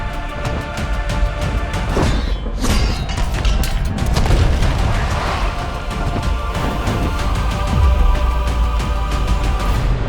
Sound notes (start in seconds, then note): 1.5 thudding and screaming; 6.3 heroic music continues